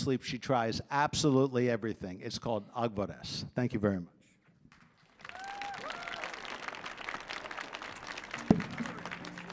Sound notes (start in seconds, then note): 2.7 speaking in Armenian; 5.0 audience applauding